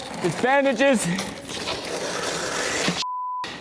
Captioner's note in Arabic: ضجيج مخيف